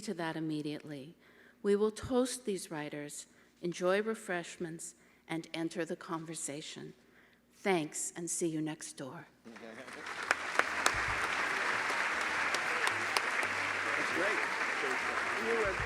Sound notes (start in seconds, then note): 9.4 applause